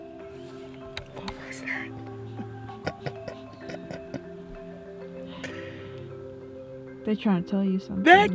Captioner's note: laughs